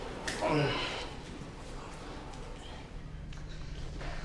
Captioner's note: french grunts